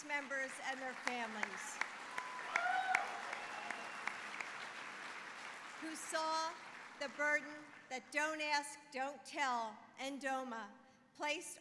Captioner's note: applause